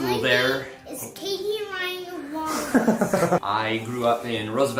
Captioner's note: camera man laughing